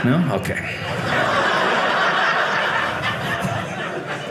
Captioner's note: audience laughing